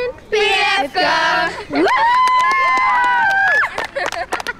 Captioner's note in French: acclamations